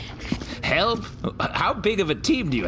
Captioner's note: sloshing